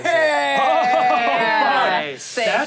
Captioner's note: everyone yells